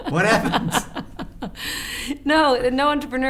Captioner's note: laughs